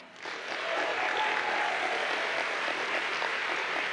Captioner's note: audience applauds